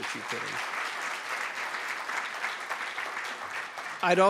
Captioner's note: applause